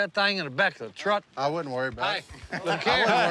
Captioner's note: laughs